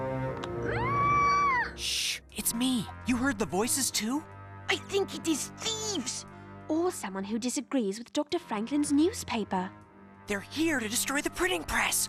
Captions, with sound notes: [MUFFLED SCREAM] SHH! IT'S ME. YOU HEARD THE VOICES, TOO? [FRENCH ACCENT] I THINK IT IS THIEVES. OR SOMEONE WHO DISAGREES WITH DR. FRANKLIN'S NEWSPAPER. THEY'RE HERE TO DESTROY THE PRINTING PRESS!